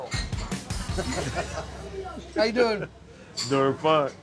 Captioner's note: chuckling